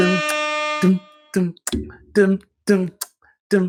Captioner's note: air horn playing; beatboxing